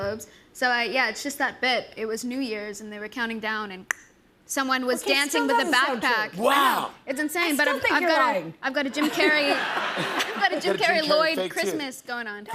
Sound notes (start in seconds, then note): 3.7 clicks tongue; 8.9 laughter